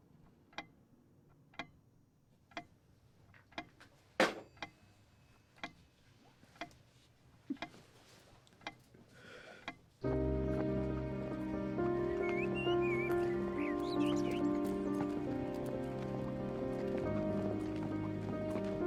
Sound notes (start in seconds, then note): 4.2 phone slams down